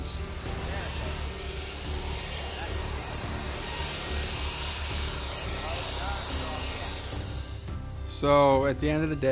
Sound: engine noise

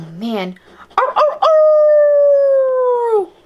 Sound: howls

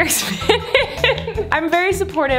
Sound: laughs

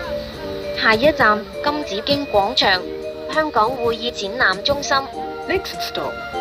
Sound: Cantonese

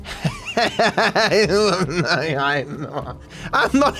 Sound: laughs

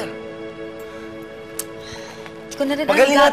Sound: sighs, clicks tongue

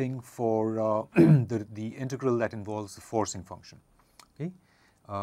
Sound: cough

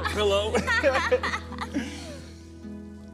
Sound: both laughing; romantic music

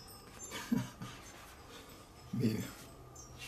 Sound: laughs

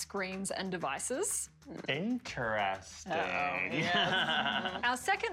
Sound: laughing

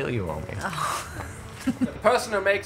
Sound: Erin chuckles

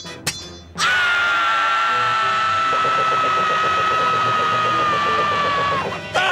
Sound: screaming

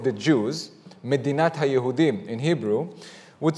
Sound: presenter speaking Hebrew

